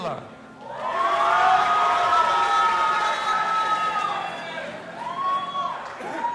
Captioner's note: audience applauding and cheering